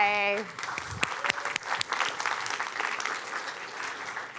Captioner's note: applause